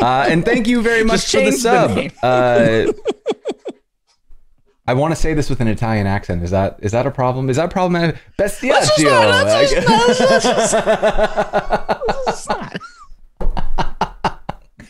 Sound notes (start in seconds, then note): 9.0 laughter